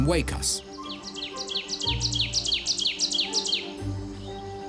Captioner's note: bird sings